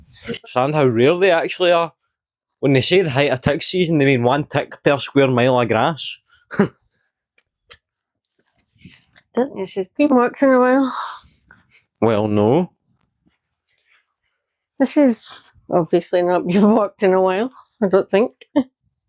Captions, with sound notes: Is that how rare they actually are? When they say the height of tick season They mean one tick per square mile of grass. [Laughs] I don't think this has been walked in a while. Well, no. This has obviously not been walked in a while, I don't think.